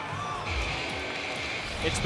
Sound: bell rings

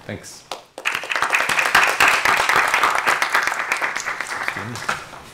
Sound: applause

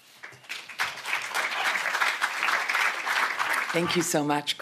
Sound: audience applauds

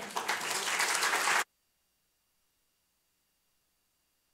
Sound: audience applauds

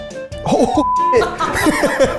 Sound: beep

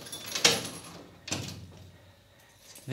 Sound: lock unlocked

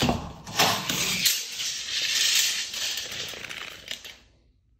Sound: measuring tape squeaking

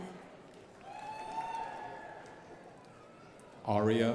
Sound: crowd applauding

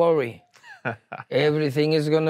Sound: laughs

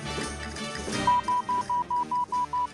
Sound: beeping

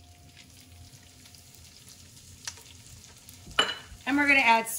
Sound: mushrooms sizzling

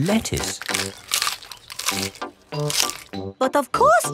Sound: munching

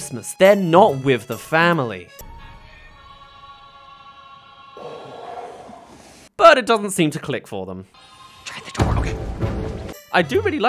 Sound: aww!

